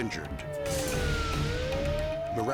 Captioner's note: siren blaring